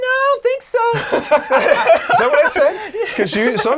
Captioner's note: laughing